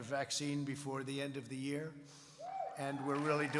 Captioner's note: applause